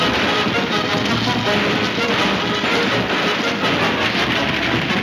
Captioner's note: gunshots banging